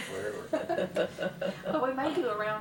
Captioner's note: laughs